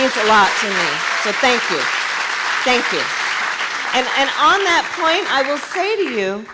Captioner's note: applause